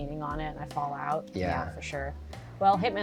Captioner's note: pat